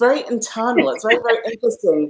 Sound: laughs

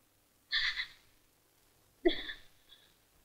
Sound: crying

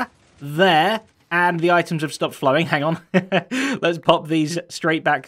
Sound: chuckles

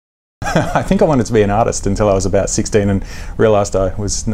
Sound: laughs

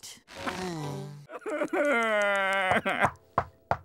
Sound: sobbing

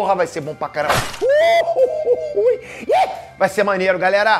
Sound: Peter screaming in hysteria

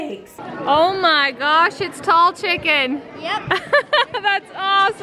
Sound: laughs

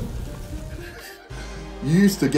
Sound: both laughing

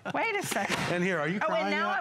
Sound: laughter

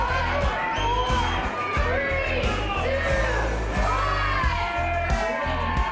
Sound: crowd cheering, music; crowd shouting; whistling and applause from crowd, music

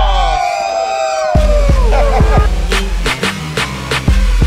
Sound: crowd cheering

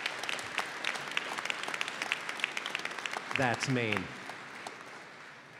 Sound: applause

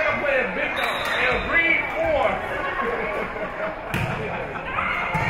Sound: whistle being blown

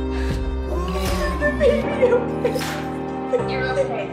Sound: sobbing

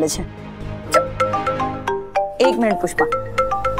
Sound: mobile phone ringing

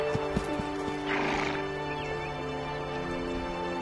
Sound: horse snorts

